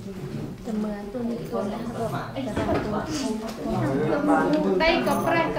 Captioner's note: chattering